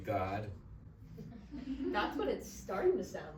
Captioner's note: audience chuckles